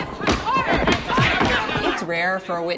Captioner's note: gavel bangs